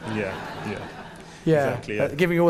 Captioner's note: audience laughing